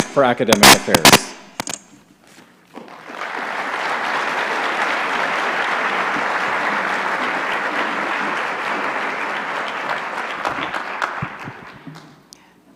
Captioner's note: applause